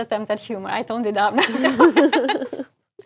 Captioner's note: laugh